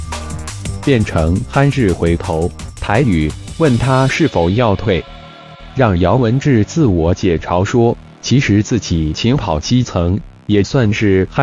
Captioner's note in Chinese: 台語